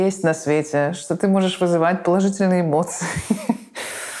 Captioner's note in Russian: смеясь